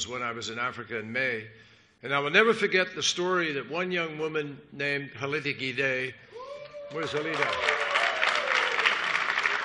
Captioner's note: cheers and applause